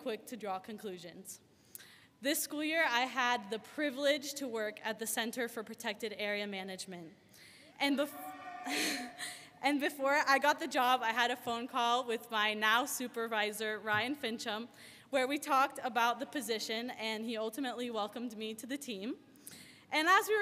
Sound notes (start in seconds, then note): 8.1 audience member cheering